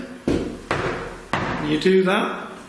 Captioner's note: thuds